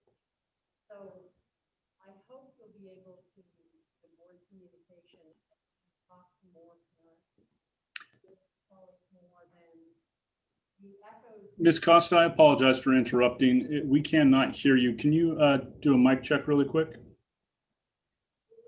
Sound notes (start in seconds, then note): 11.8 laughing